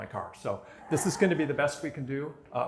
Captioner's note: laughter